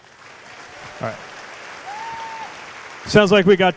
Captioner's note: cheers/applause